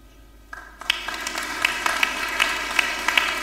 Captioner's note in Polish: oklaski